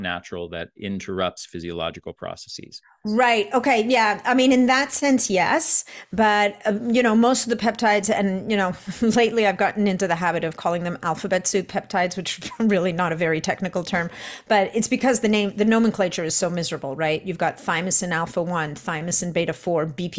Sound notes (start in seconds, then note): 12.5 chuckles